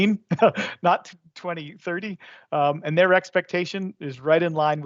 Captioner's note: laughs